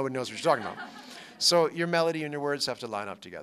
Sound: laughter

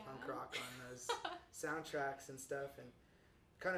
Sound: chuckles

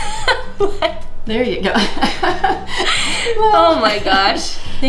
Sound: laughing

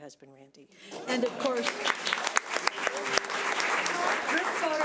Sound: audience applauds

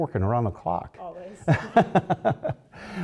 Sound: laugh

